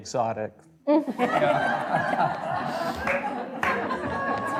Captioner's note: audience laughing